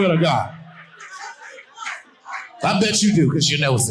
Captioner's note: woman shouting